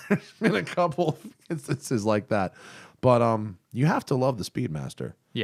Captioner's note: laughter